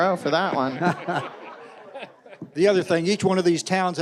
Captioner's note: audience laughing